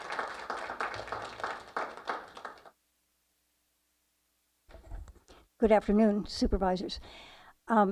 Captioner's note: applause